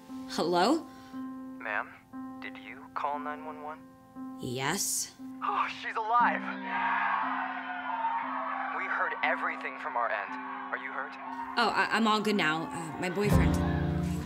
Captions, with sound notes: - Hello? - Ma'am, did you call 911? - Yes. - Oh, she's alive! (crowd cheering) We heard everything from our end. Are you hurt? - Oh, I'm all good now. My boyfriend.